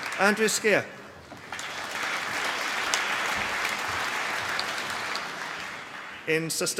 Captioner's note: applause